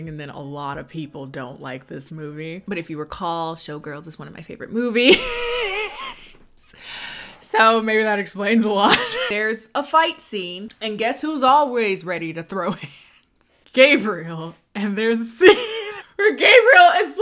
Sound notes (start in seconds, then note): 5.2 laughs